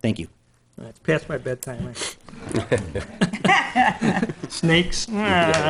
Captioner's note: laughing